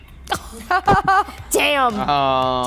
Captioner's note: group laughs